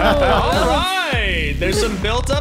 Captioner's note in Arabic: مجموعة تضحك